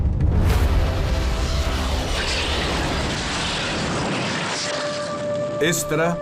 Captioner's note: rocket launching